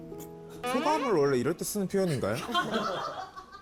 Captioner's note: wrong-question sound effect